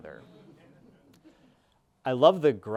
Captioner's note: audience laughing